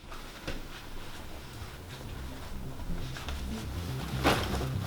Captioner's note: shuffling off-screen